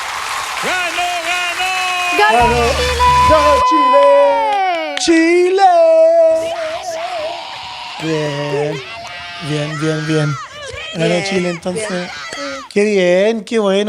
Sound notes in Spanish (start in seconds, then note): 6.2 grito